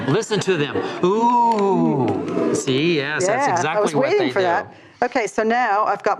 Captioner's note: audience goes "Oooooh."